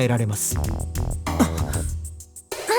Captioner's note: gasp